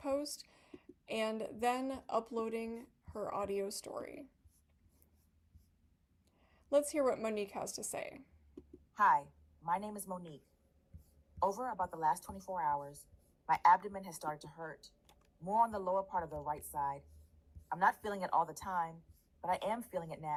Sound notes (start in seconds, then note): 8.3 recorded audio